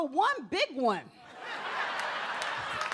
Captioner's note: audience laughs; audience applauds